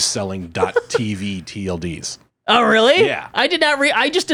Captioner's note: laughs